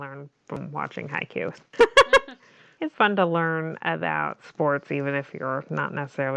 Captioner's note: laughs